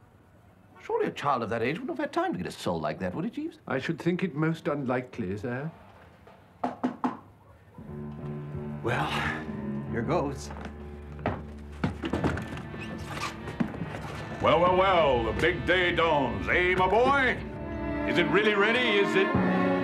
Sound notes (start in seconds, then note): 6.6 knocking at door